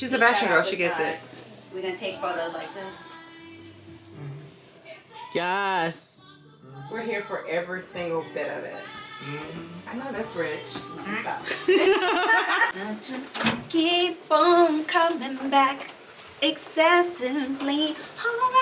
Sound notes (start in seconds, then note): 11.4 laughter